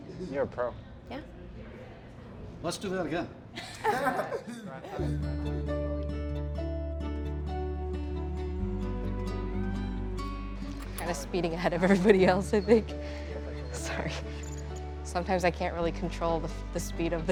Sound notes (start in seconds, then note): 3.6 group laughs; 5.0 bright music